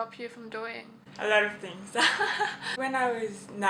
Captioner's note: laughs